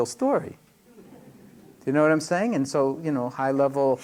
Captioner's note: laughter